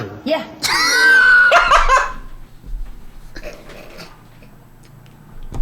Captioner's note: wheezing laughter